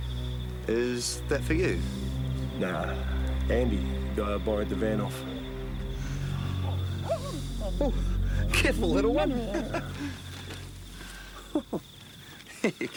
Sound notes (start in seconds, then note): 6.6 wolf barking; 8.4 Graham chuckles